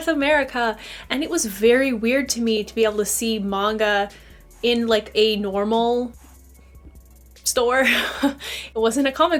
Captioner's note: awkward laugh???